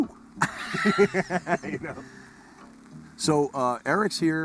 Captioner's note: men laughing